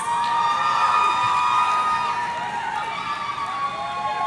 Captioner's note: audience cheering